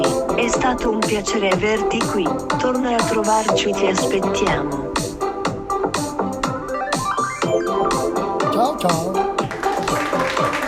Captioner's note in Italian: Applauso